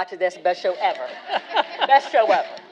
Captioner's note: all laughing